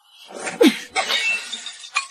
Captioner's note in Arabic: سعال